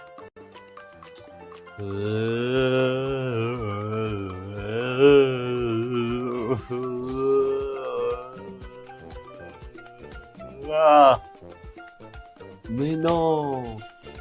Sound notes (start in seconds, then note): 1.7 sound of a drunk man